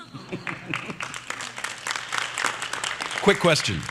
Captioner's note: applause